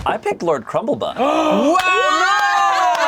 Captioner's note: all gasping